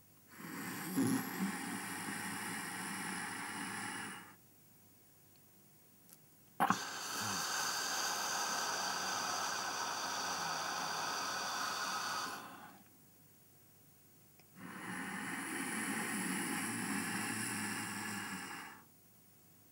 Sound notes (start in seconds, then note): 0.3 sound of inhalation - "Hhhhh"; 4.9 holding breath; 6.6 sound of exhalation - "Hhhhh"; 13.4 holding breath; 14.5 sound of inhalation - "Hhhhh"